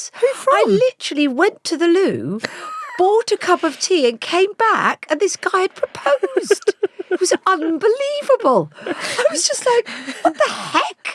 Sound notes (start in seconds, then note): 5.4 laughs